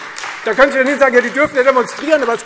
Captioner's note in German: Beifall Freie Demokraten und vereinzelt AfD